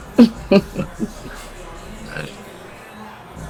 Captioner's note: June chuckles